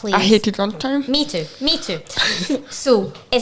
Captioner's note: chuckling